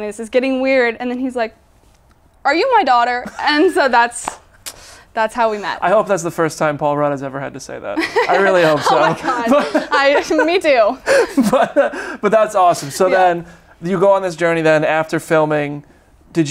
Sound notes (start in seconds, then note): 3.3 laughs; 7.9 laughs